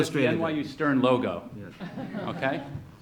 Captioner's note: audience laughs